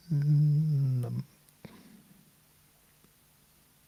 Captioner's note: hums